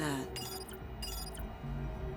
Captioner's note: clicks, beeps